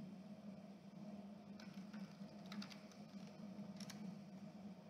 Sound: aggressive typing & clicking

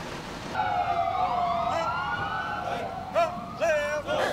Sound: police sirens

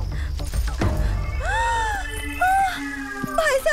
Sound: gasps

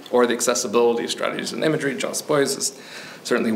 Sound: none

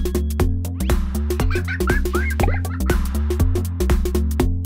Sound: laughter

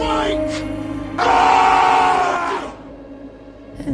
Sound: roars

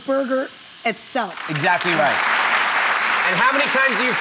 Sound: audience clapping

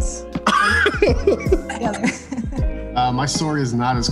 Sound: laughs

